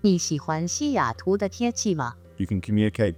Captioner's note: person speaking in foreign language